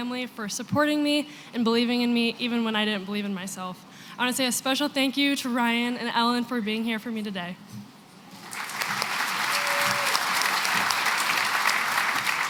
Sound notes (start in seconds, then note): 8.3 applause